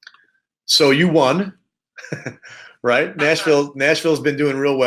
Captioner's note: laughs